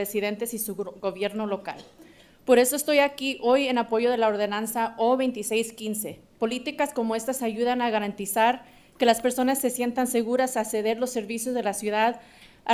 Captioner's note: speaking in spanish